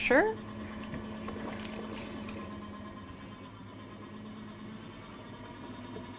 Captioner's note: potter wheel whirring